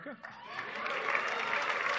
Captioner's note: applause